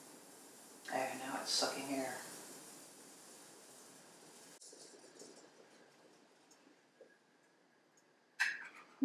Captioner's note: hissing sound; bubbling sound as the air bubbles into the bottom pot